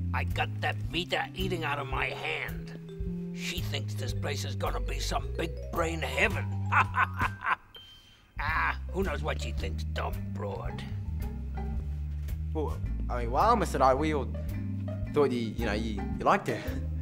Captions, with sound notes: I got that Vita eating out of my hand. She thinks this place is gonna be some big brain heaven. (Mr. Nite laughs) Ah who knows what she thinks, dumb broad. - Well, I mean wow Mr. Nite, we all thought, that, you know, you liked her.